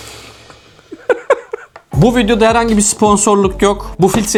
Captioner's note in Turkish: kahkaha